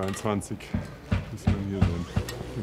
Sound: hammering

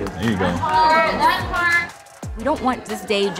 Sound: applause

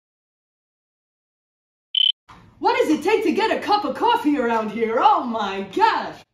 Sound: beep

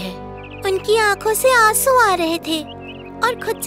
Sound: birds chirping

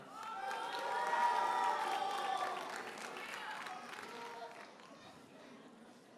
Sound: audience cheers and applauds

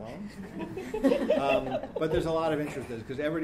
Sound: laughing

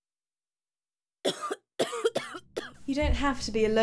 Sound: coughing

